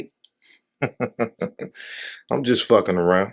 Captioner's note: laughing